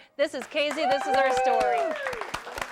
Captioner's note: �cheering and applause�